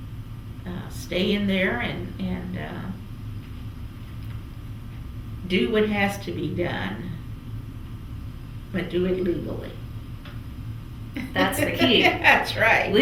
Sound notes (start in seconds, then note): 11.2 laughter; 11.2 laughs